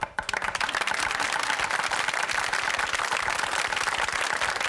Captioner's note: audience claps